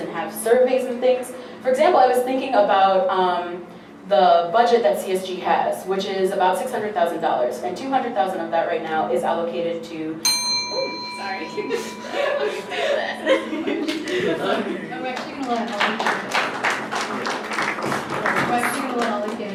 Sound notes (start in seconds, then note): 10.2 loud ding from a bell; 11.8 laughing out of surprise at loudness of the bell; 15.0 scattered clapping